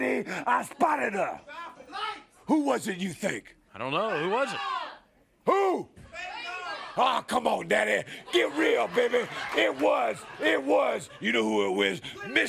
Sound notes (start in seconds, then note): 6.0 crowd cheering